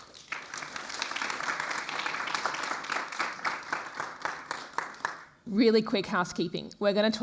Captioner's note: applause